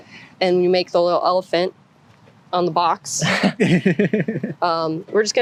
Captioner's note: laughter